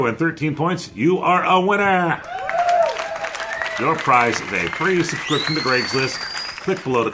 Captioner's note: applause